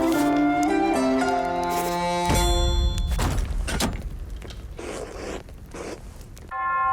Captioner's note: brush scratching